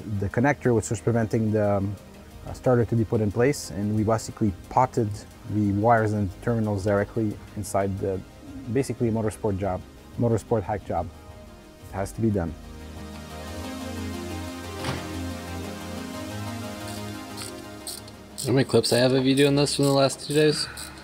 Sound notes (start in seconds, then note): 13.7 electronic music; 13.7 tool ratcheting